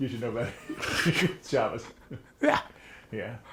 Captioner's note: laughs